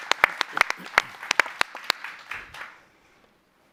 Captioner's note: applause